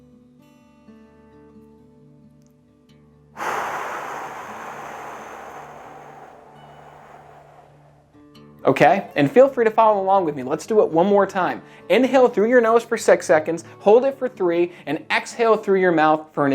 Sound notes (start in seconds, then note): 3.4 whooshing